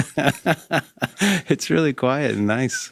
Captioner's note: laughing